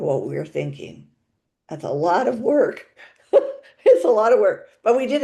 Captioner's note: laughs